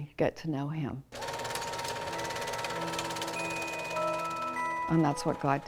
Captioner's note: movie reel jittering